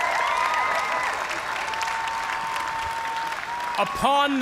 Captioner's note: cheers and applause